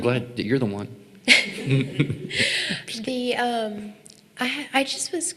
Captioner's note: laughing